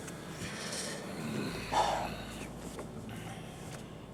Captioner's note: sigh